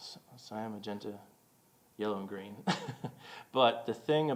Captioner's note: chuckling